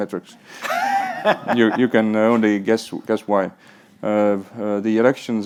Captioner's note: all laugh